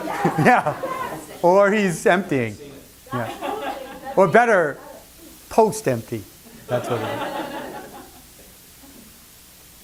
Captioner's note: laughter